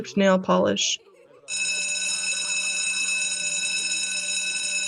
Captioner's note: bell rings